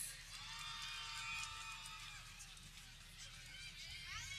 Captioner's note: people cheering